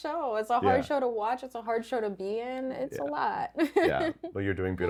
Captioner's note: laughs